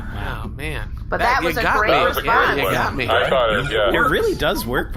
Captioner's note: chuckling